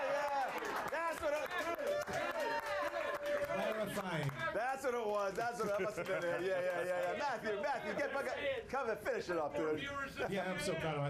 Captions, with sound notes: [AUDIENCE CHEERING] - THAT'S WHAT IT WAS, THAT MUST HAVE BEEN IT, YEAH, YEAH. MATTHEW, MATTHEW, GET ... COME AND FINISH IT UP, DUDE.